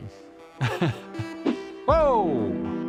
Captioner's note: laughs